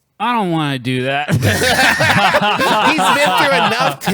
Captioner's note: laughs